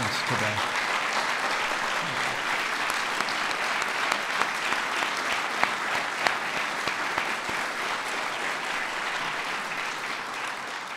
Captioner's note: applause